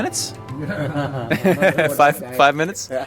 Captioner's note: laughing